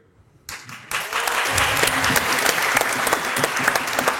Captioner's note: applause